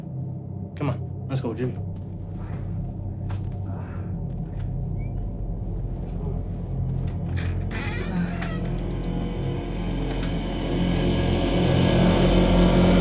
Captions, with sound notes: Come on, let's go, Jim. (suspenseful music) (door squeaks) (suspenseful music)